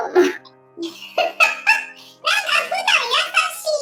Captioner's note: laughs